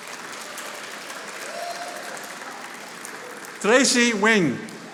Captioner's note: audience applauding